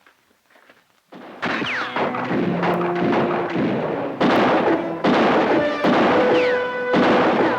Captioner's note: guns fire; bullets ricochet